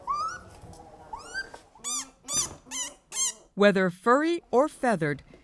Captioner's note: raccoon chirping; animal vocalizing